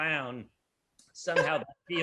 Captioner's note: loudly chuckles